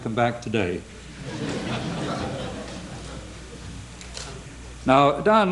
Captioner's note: laughter